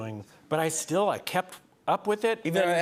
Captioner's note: none